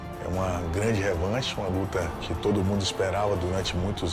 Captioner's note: Nogueira speaking Portuguese